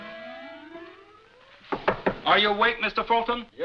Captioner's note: knocks on door